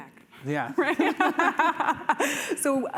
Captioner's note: laughter